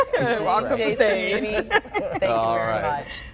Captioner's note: laughter